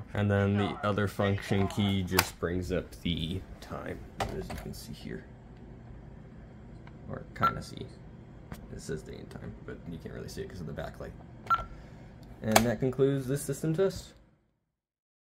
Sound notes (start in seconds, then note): 7.7 beep; 11.5 beep